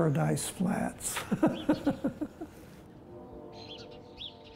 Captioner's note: laughs